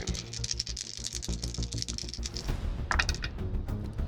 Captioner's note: rolls dice